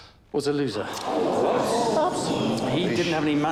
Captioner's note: group murmuring